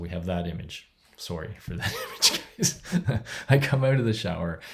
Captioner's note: laughs